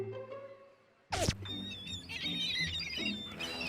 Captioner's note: birds squawking